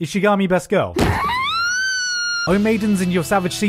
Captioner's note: Chika squeal